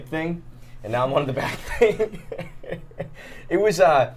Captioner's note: laughs